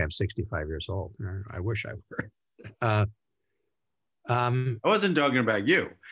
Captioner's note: chuckles